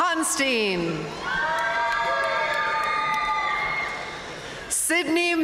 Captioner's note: audience cheering and applauding